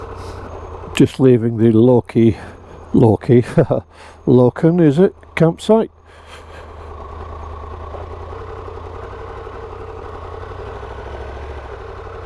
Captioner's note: laugh